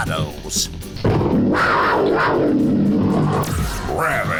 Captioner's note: mechanical Jaguar Roar